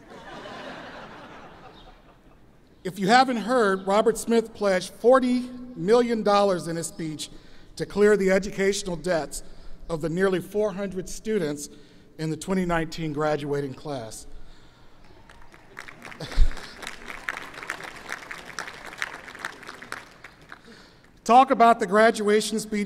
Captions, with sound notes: (audience laughs) If you haven't heard, Robert Smith pledged $40 million in his speech to clear the educational debts of the nearly 400 students in the 2019 graduating class. (audience applauds) Talk about the graduation speech